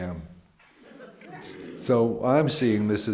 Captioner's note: laughter